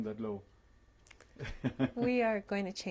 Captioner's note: laughs